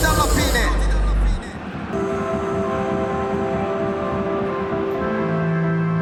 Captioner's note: crowd noise